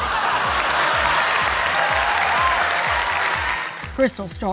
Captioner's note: laughter and applause